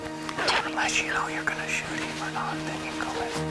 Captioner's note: murmur